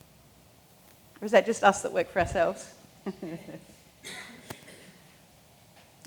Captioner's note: laughs